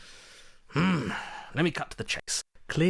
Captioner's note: exasperated grunt